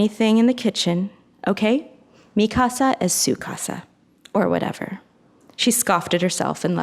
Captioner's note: speaks in foreign language